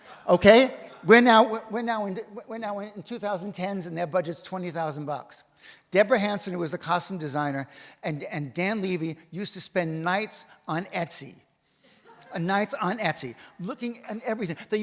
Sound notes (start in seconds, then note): 12.0 audience laughs